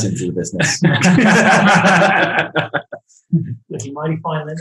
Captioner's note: group laughing